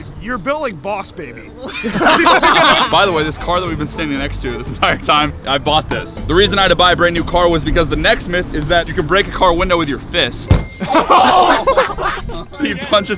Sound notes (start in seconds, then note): 1.6 combined laughter; 11.6 grunts